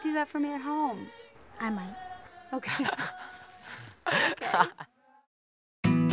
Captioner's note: all laugh